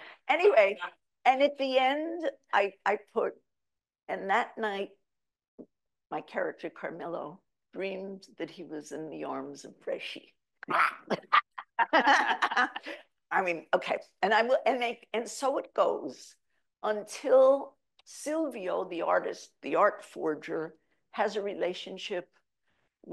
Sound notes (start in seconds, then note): 10.6 laughs